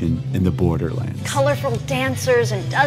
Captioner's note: soundbite of archived recording